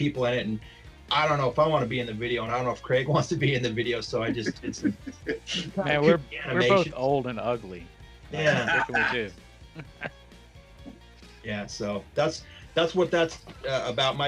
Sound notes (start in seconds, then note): 8.4 laughs loudly; 9.7 men laugh